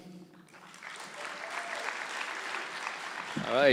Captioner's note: applause